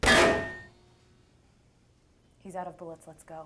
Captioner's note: gunfire stops